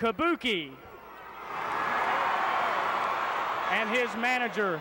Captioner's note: audience cheering